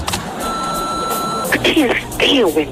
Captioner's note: phone rings